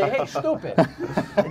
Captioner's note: laughter